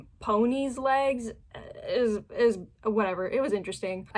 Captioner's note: stammering